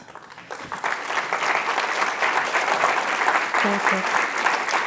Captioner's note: cheers and applause